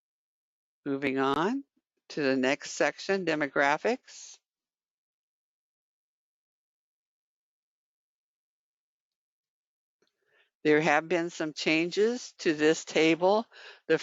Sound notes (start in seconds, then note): 5.2 5 seconds pause